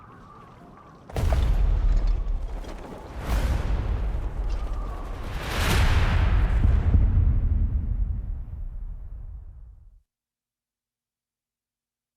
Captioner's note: wind blowing